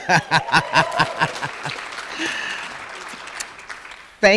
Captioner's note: applause